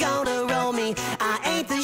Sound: gasp

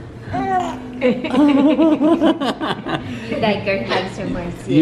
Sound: laughter

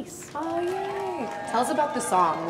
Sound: crowd cheering

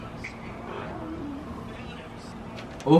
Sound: growls

